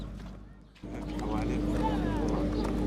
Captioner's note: non-english speech